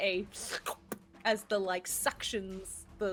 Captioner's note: person slurping